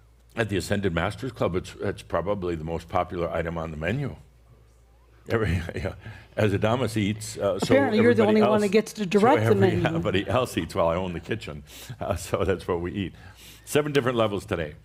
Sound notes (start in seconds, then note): 4.4 under her breath; 6.2 chuckles